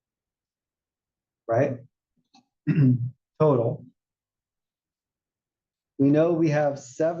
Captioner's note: cough